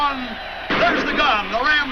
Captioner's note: gunshot